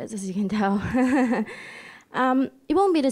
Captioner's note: laughing